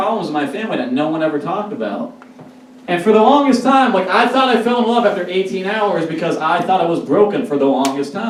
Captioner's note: none